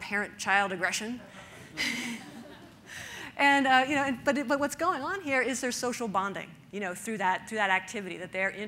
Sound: audience laughter

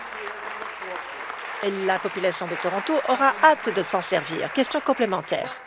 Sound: applause

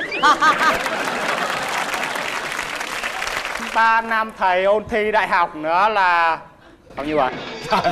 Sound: applause

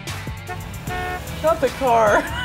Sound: car honks; laughs

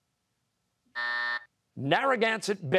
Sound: buzzer

